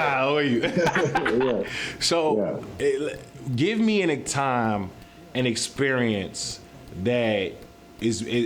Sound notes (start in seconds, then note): 0.6 laughing